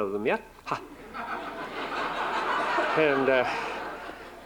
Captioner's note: laughter